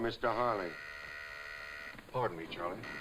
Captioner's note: buzzer buzzing